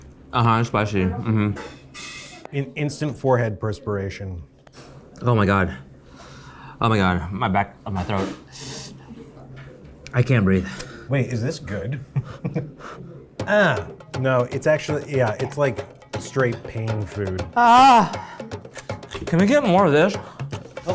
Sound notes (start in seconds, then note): 12.0 chuckles; 20.7 speaks in Korean